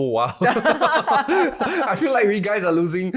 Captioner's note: laughing